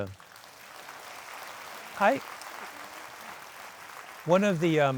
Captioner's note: audience applauding